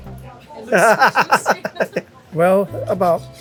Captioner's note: laughing